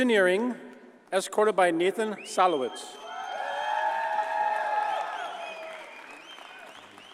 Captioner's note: audience cheers and applauds